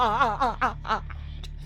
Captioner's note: laughs